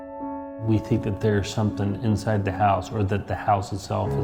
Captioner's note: voice over, male